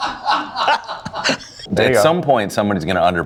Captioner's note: laughing